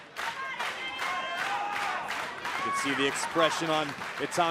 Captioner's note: clapping